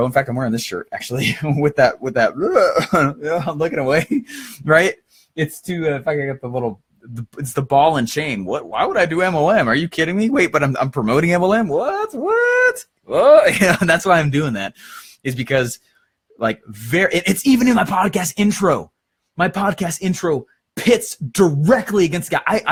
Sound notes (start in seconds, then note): 1.9 makes grossed out sound